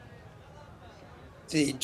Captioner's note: people bustling around